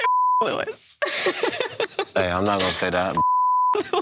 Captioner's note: woman laughing; beep